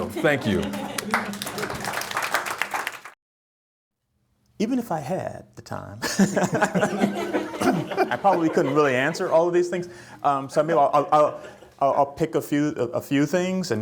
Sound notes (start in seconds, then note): 1.9 applause; 6.0 chuckling